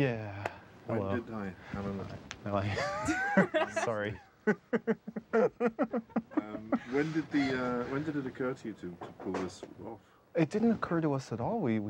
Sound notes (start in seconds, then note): 4.5 laughing